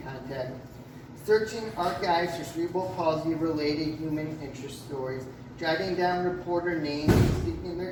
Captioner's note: another slam in background